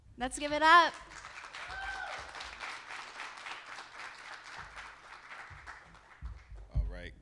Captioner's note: audience applauding; audience cheering